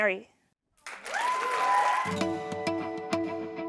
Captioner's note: applause